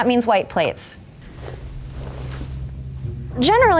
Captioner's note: tablecloth rustling